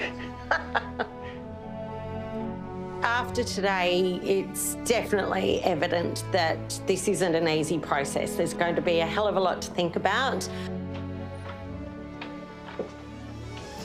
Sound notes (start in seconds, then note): 2.1 chuckles; 2.1 laughs